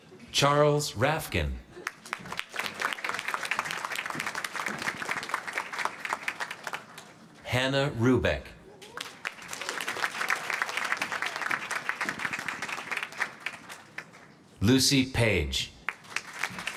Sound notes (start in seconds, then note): 1.8 applause; 8.8 applause; 15.8 applause